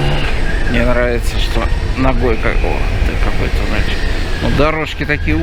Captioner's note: scrapes